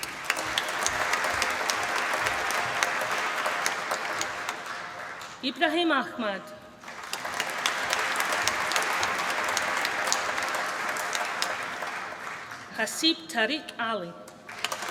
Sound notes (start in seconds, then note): 0.0 applause